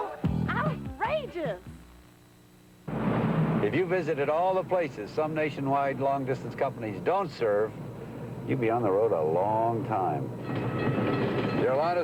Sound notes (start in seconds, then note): 2.8 car driving; 10.4 railroad crossing bell rings